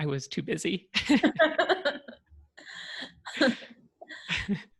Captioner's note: laughter